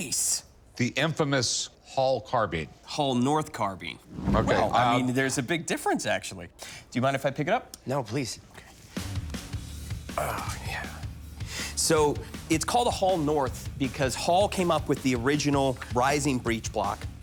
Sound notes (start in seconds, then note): none